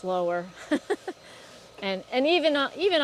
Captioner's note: laughs